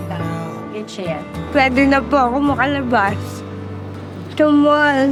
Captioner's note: speaking foreign language